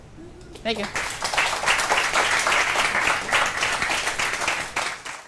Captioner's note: applause